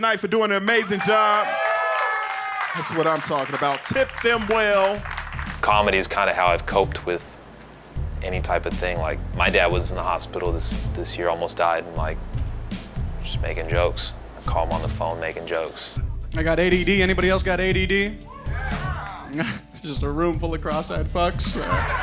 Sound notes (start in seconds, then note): 0.7 audience cheering; 18.3 audience members cheering; 21.5 audience laughing